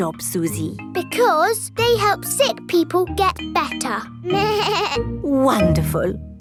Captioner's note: bleats